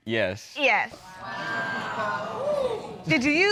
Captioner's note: man hooting